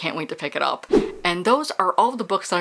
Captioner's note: whoosh